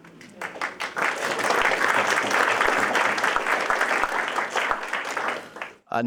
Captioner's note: applause